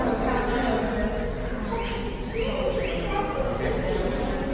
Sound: bird chirping

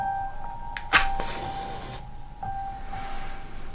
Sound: match goes fwosh

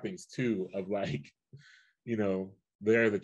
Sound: chuckles

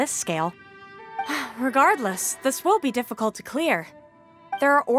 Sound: sigh

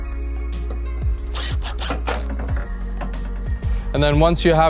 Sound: drill revs

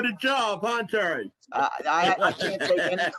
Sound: laughter

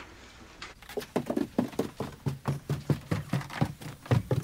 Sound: feet clabbering

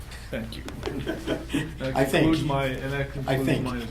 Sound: laughing

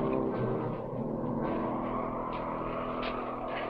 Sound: wind howling

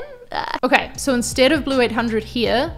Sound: exclaims

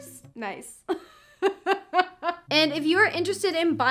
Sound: laughs

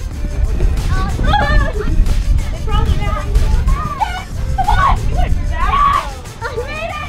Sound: fun shouting and laughter

